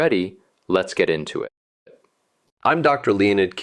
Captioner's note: pause